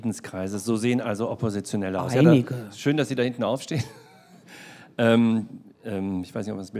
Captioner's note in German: lacht